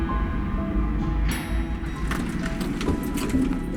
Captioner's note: ding